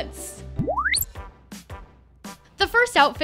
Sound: electronic beep

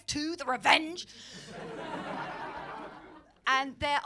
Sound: laughter

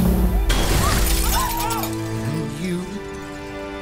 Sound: glass shatters

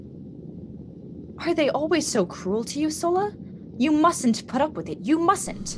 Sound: exhales

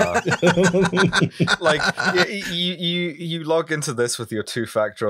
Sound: laughter

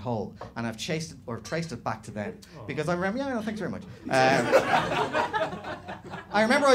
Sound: audience - awww

